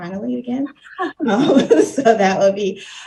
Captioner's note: laughing